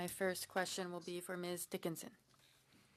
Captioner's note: speaking French